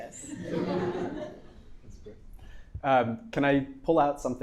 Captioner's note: audience laughing